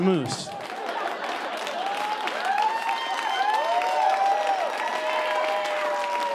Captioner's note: audience cheering and applauding